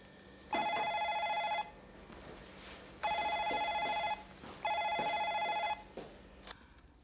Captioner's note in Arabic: الهاتف يرن